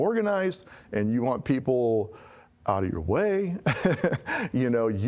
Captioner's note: laughing